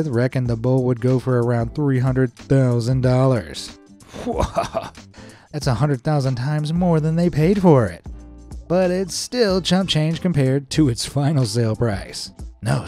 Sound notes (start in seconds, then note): 4.1 chuckling